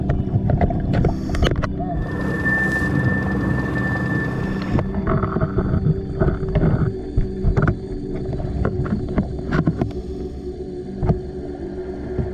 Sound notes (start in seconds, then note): 0.9 underwater sounds continue